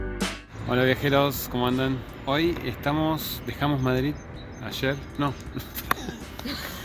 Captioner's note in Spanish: risas